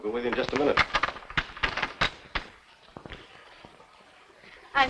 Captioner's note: doorstop rattling